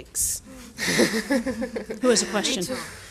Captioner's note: audience laughing